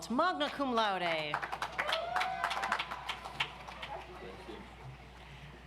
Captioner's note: audience applauds